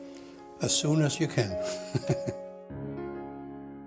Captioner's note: laughs